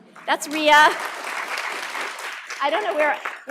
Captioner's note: applause